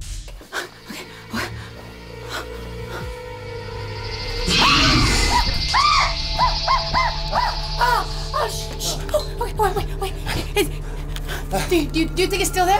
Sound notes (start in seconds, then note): 0.4 breathing heavily; 4.4 screaming